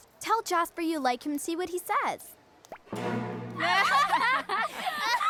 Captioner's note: other girls laugh